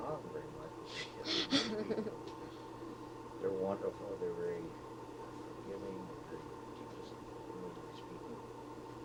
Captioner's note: both laugh